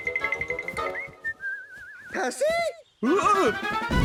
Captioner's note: whistling